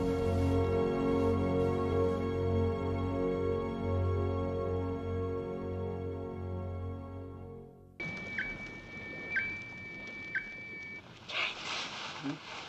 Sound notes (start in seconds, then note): 0.0 slow music; 8.0 beeping